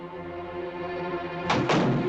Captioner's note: door slams